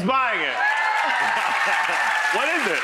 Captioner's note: audience cheering